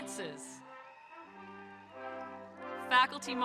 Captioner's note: audience cheering